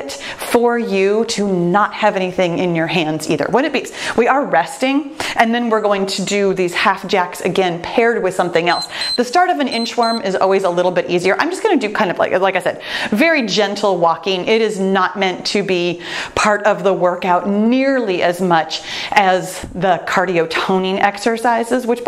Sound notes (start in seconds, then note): 9.6 timer beeps